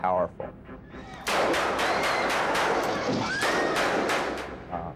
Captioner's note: gunfire popping